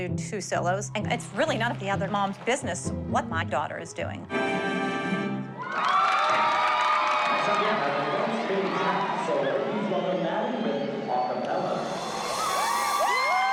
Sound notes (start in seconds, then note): 4.6 cheering; 11.9 cheering